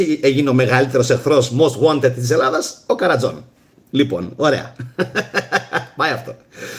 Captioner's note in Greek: γέλια